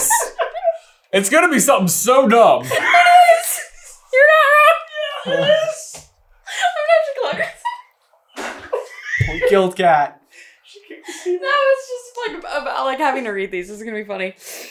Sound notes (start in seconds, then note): 0.0 cracking up; 3.1 wheezing; 4.9 squeaking; 6.3 laughing and so squeaky